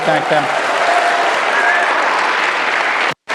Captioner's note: applause